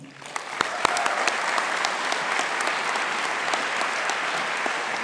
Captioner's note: audience applauding